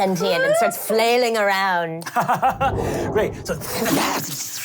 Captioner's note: laughs